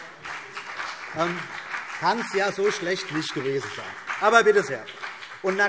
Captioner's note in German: Beifall BÜNDNIS 90/DIE GRÜNEN und vereinzelt CDU